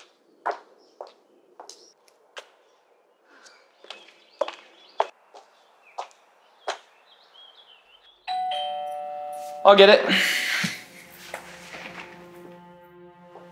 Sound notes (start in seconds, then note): 8.2 doorbell chiming; 10.8 gentle music